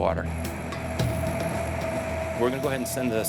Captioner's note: engines whirring